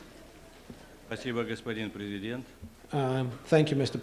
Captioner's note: non-english speech